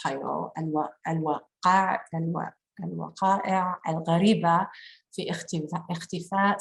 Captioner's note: speaking in foreign language